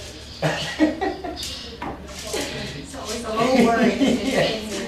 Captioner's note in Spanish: Risas